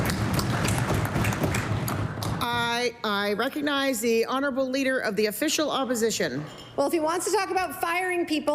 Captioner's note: applause